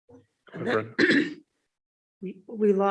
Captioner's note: clears throat